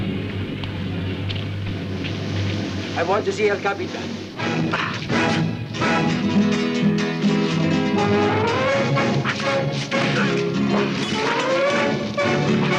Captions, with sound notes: - I want to see your captain! (dramatic music continues) (knives whooshing)